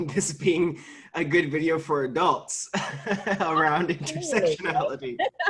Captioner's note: laughing